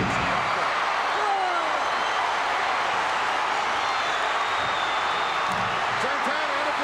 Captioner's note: audience cheering